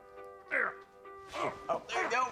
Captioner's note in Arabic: أنين